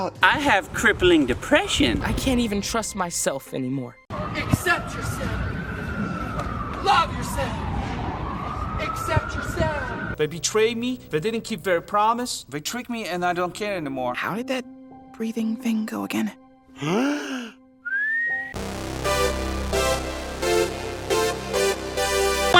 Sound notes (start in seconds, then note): 16.7 inhales; 17.8 whistling